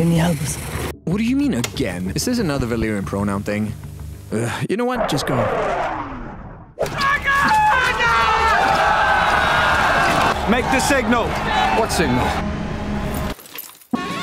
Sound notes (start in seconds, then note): 4.3 sigh; 8.6 all yelling